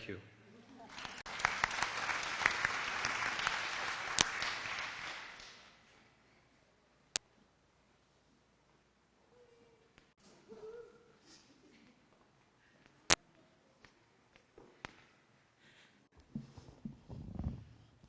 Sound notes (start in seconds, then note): 0.8 applause; 5.6 silence